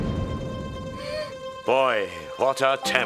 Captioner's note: Annie gasps